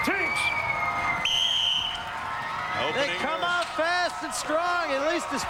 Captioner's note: whistle blows